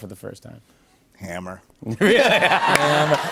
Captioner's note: laughs